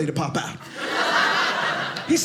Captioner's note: audience laughing